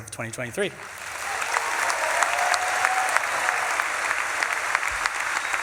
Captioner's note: audience claps and cheers